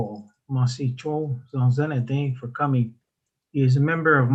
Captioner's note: speaks in foreign language